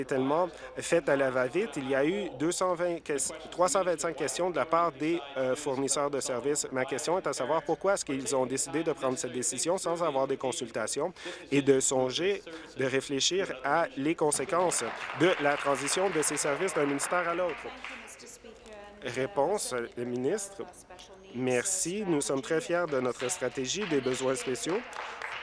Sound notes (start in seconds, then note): 17.3 applause